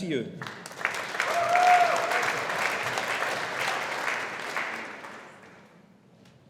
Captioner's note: audience applauding